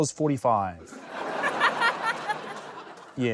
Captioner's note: laughter